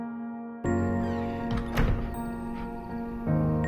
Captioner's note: door squeaks closed